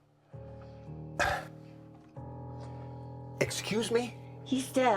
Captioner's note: scoffs